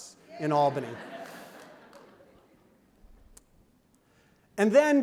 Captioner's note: laughter